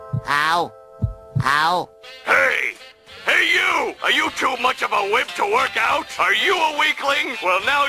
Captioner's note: voice from the TV